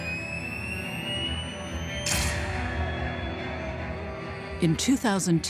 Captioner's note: camera shutter